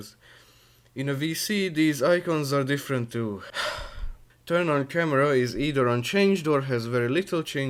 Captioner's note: sigh